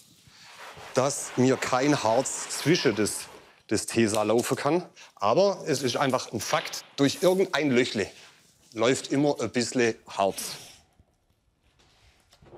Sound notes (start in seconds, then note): none